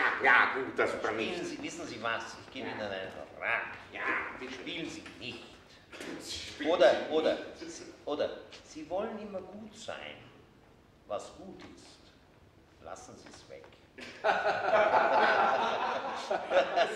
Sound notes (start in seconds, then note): 14.0 laughter